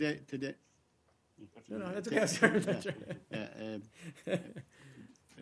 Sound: laughter

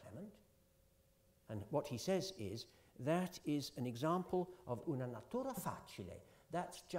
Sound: italian

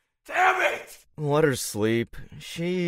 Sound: In Andy’s voice

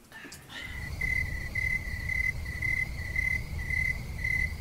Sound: crickets chirping

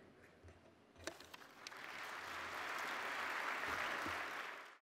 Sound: audience applauding

